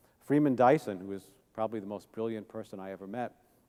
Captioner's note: none